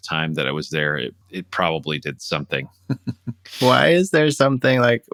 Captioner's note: laughter